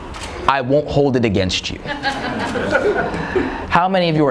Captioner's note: laughing